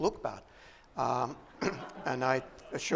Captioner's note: laughter